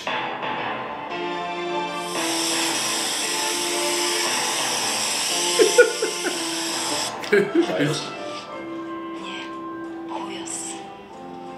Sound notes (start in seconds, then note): 1.9 spraying; 5.4 laughs; 8.2 foreign language